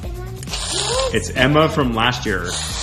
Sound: hisses

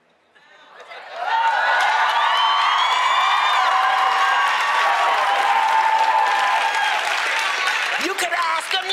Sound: cheering; applause

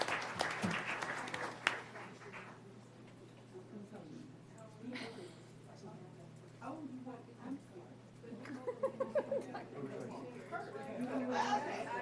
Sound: applause

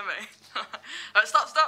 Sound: laughs

